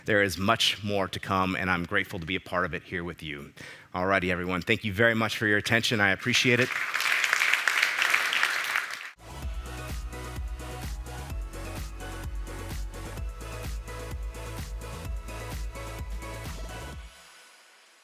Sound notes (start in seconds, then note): 6.3 applause